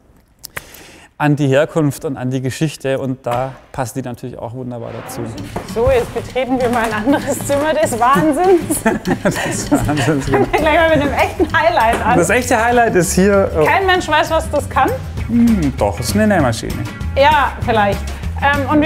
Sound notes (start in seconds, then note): 7.8 both laugh